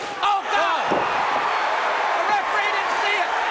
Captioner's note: crowd cheering